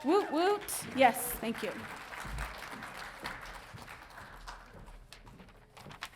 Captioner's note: audience applauding